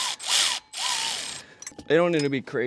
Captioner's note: wrench whirs